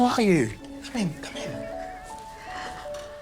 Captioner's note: children chattering